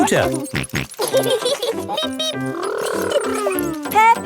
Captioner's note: both laughing